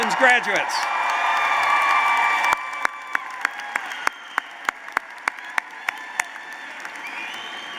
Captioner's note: applause